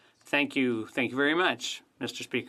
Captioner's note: speaking French